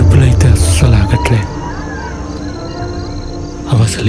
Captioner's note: jackals howling